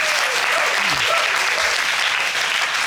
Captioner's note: audience applauding